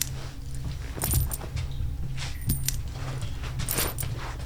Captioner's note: coins clink